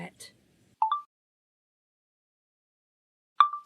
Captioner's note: chime of a phone recorder turning off; chime of a phone recorder turning on